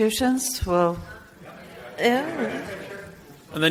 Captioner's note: man shouts off microphone